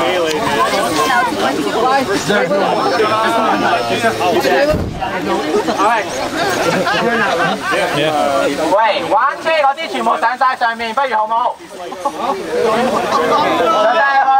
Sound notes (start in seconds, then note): 0.0 laughs; 0.3 crowd chattering; 8.8 speaking in foreign language